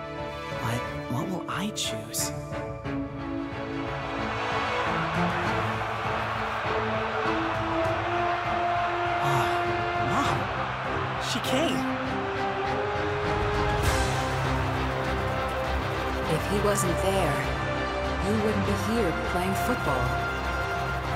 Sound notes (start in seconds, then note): 4.3 crowd cheering; 13.9 epic music